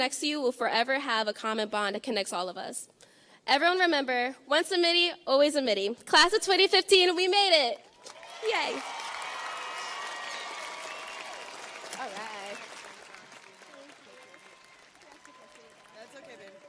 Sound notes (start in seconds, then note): 9.3 audience cheers and applauds